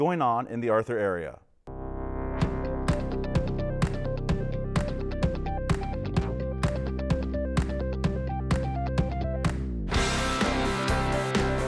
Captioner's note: horse hooves clopping